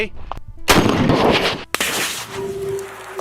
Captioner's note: gun shots